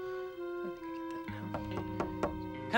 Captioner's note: knock knock